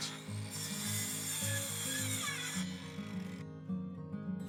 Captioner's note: saw cutting